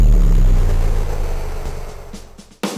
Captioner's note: shooting noise; static noise